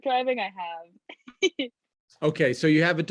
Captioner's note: laughs